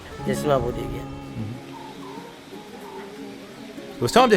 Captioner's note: sound of a zephyr